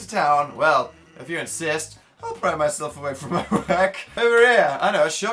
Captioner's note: laughs